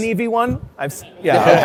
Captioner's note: laughter